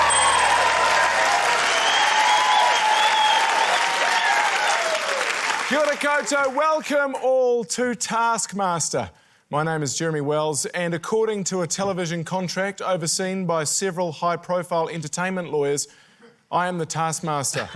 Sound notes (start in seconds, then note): 0.0 ding!; 2.3 cheering, applause